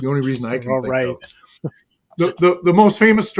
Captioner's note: laughs